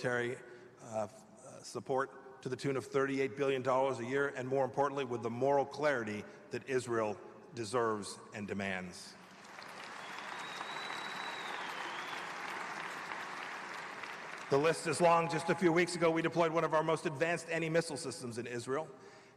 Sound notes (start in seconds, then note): 11.6 applause